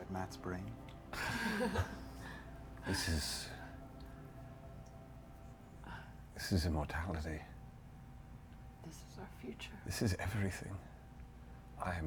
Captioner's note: sighs, chuckles